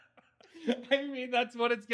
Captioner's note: laughing